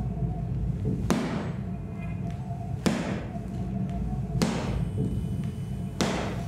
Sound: stomping begins

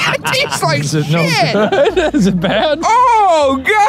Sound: laughing

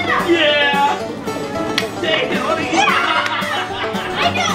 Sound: screaming

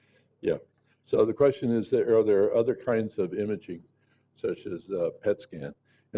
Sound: off microphone

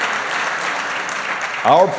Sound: applause

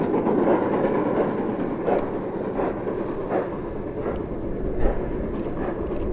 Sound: rotary chugging

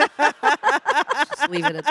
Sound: audience laughing; panelists laughing

